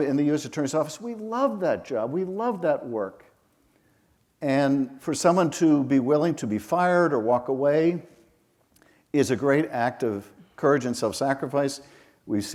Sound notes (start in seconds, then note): none